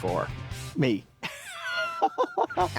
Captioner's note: laughing